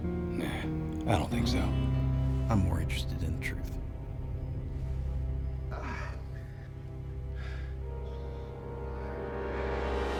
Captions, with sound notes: NAH I DON'T THINK SO, I'M MORE INTERESTED IN THE TRUTH. AH... [BREATHING HEAVILY]